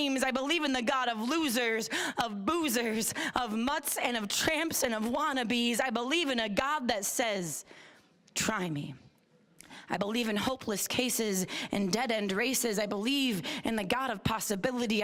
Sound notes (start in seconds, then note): none